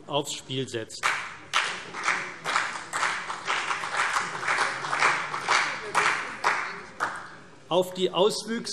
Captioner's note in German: Beifall CDU und BÜNDNIS 90/DIE GRÜNEN